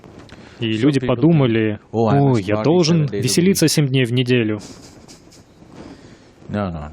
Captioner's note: Смеется